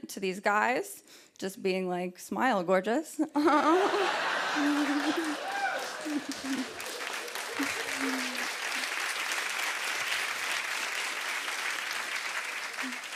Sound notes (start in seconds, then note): 3.3 laughter; 6.6 applause